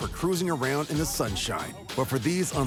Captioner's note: none